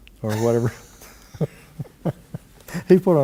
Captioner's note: laughter